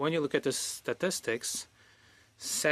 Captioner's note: speaking French